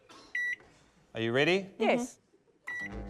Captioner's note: microwave beeps; microwave beeps, whirrs